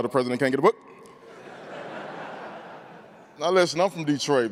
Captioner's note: crowd laughing